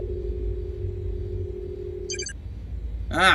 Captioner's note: computer beeping